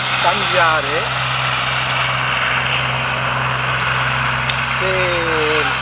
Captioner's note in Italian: Passa un trattore